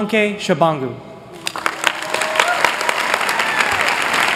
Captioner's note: applause